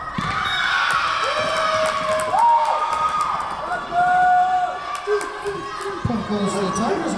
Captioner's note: crowd cheering; whistle blowing